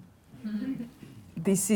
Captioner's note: laughing